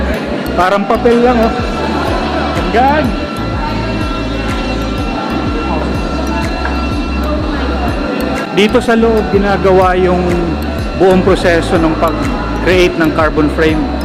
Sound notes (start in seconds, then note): 3.5 people talking